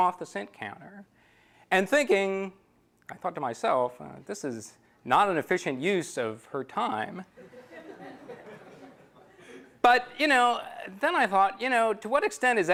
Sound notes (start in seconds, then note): 7.2 laughter